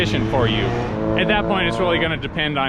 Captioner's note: car engine roaring